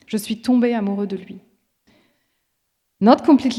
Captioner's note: speaking in foreign language